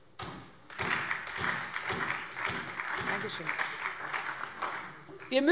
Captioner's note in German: Beifall SPD und DIE LINKE